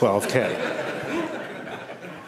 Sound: laughter

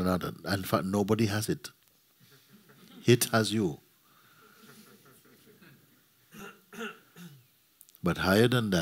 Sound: laughter

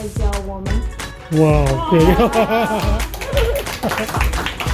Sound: Caritas' volunteer translator is speaking Mandarin

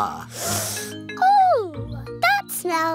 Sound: sniffs

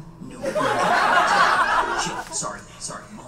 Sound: audience laughs

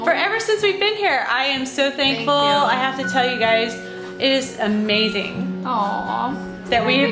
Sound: none

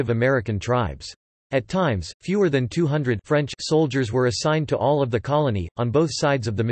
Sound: French

